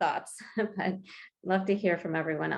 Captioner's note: chuckles